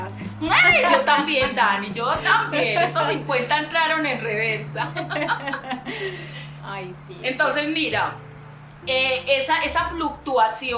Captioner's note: laughs